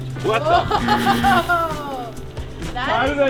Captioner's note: laughing; beep